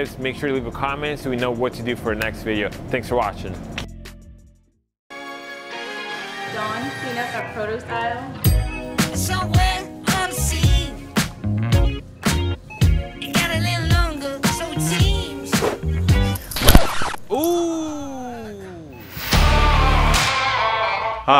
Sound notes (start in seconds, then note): 5.1 upbeat instrumental music; 15.6 air whooshes; 16.1 record scratches; 17.3 woman groans softly; 19.1 dramatic music